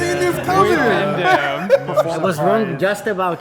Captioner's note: laughs